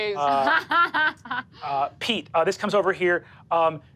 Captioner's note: laughs